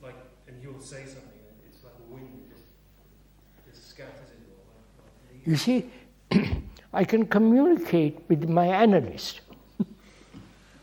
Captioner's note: laughs